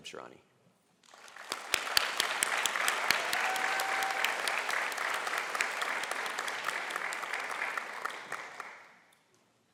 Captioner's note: applause